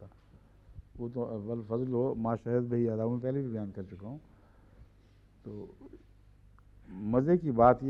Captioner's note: Arabic